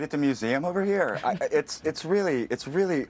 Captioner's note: laughter